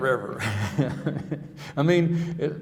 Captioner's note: chuckling